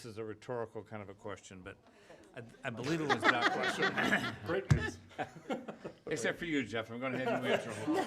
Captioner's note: laughing